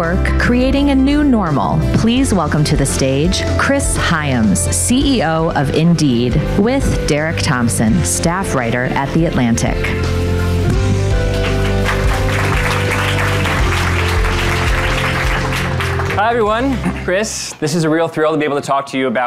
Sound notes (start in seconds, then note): 10.6 upbeat music; 10.8 audience applauding